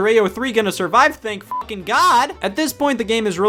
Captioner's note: beep